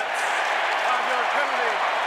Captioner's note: cheering